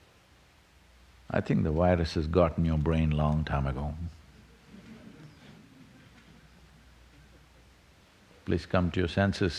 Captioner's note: laughter